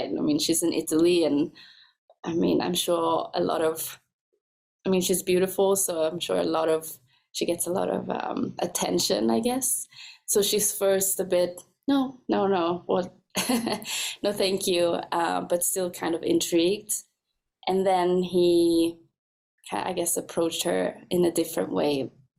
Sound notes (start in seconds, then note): 13.5 laughs